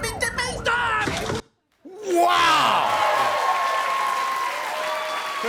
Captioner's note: cheers and applause